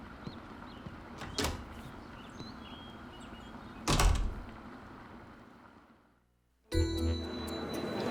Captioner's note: door opens, closes